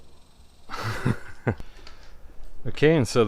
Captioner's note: laughter